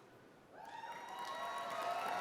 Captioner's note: applause